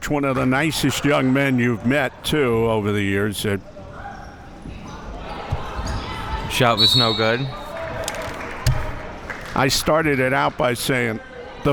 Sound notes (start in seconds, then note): 6.7 whistle being blown